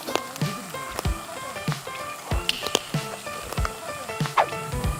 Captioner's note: chews